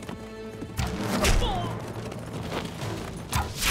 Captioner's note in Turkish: Ok fırlatma sesi; Ok fırlatma sesi